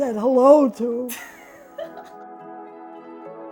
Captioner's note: laughs; calm, instrumental music